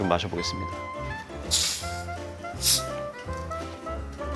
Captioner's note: pssht